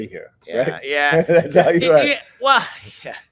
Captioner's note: chuckling